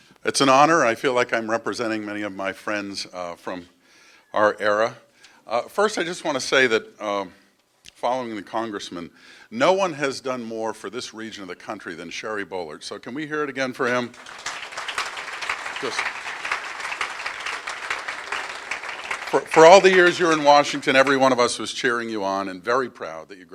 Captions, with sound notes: It's an honor. I feel like I'm representing many of my friends from our era. First, I just want to say that following the Congressman, no one has done more for this region of the country than Sherry Boehlert, so can we hear it again for him? (Applause) For all the years you're in Washington, every one of us was cheering you on and very proud